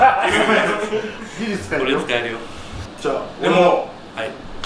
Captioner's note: laughs